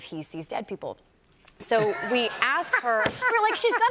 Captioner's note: laughter